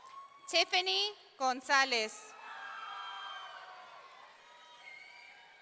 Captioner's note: audience cheering